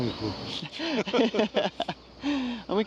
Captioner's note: both laughing